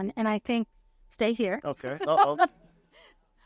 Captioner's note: laughs